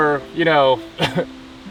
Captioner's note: laughs